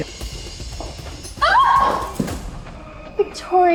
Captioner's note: screams